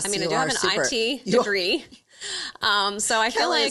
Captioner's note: chuckles